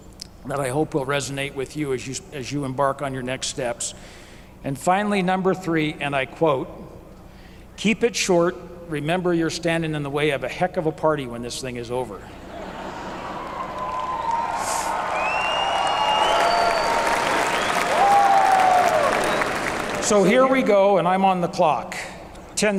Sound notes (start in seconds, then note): 12.4 laughter; 15.3 applause